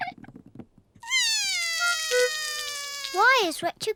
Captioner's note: cries